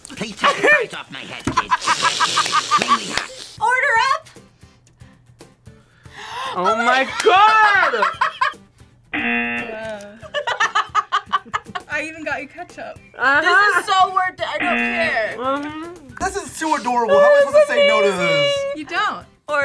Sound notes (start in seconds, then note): 1.3 both laugh; 5.8 gasps; 6.5 laughs; 9.1 buzzer; 10.0 both laugh; 14.6 buzzer